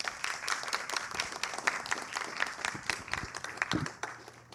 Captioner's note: applause